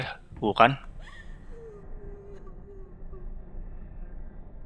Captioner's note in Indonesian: tangisan cewek